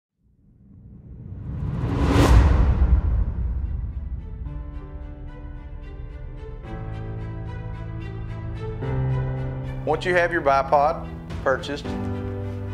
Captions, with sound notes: (dramatic sound) (upbeat music) - Once you have your bipod purchased,